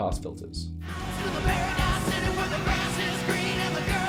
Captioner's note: car engine revs